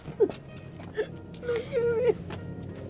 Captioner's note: sobs